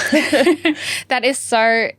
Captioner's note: laugh